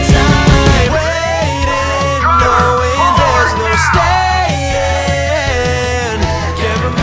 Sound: police sirens in background

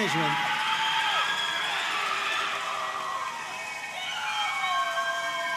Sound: audience cheering and applauding

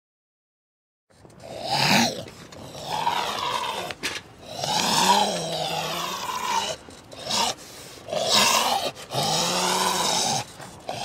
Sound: sound of zombie

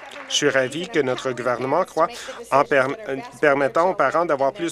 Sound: applause

